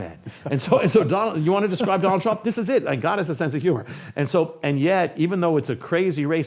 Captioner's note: laughs